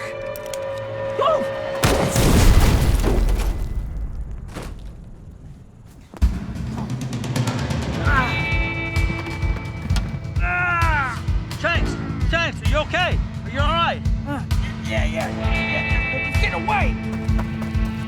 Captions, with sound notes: Whoa! (pistol booming) (explosion booming) (dramatic music) (Shanks groaning) - Shanks, Shanks, are you okay? Are you alright? - Yeah, yeah. He's gettin' away!